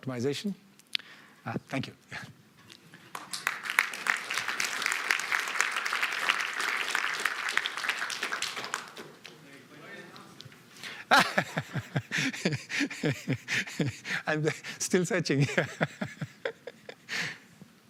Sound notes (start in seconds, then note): 6.5 applause; 11.0 laughs